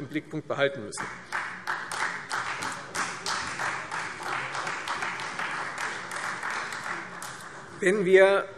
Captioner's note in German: Beifall Freie Demokraten